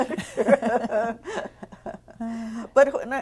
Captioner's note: laughter